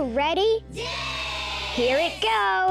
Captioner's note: crowd